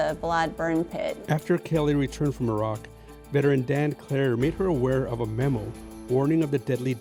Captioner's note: voiceover